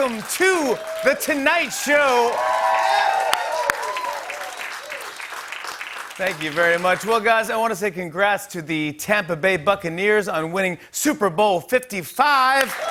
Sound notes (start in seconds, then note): 4.0 cheers and applause